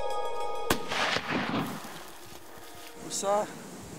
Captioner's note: gunshot